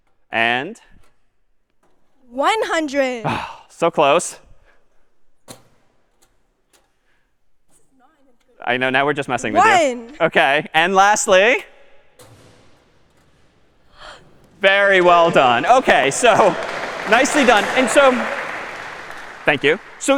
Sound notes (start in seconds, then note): 13.9 gasps